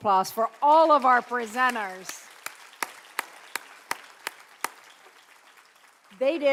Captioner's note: clapping